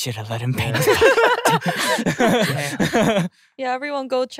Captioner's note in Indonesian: tertawa